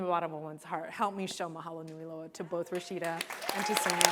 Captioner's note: applause